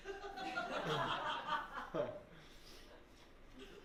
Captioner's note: laughter